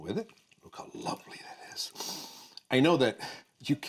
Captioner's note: inhales